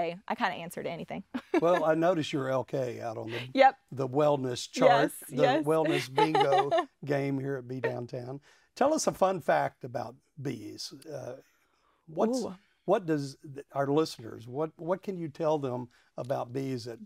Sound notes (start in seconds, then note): 1.4 laughs; 7.7 laughs